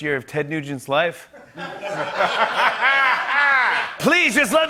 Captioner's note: laughter